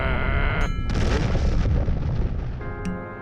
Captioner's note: growls; deep rumble and explosion